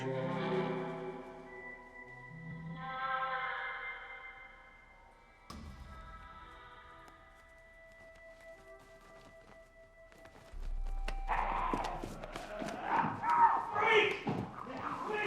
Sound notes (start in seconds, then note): 0.0 intriguing music; 11.2 snarling